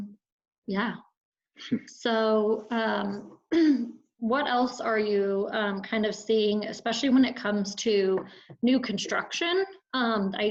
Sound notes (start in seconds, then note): 2.6 throat clearing